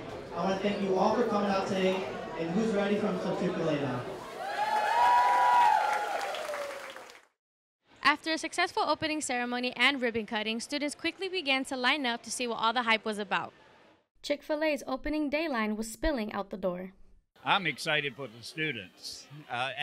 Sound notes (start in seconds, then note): 4.3 applause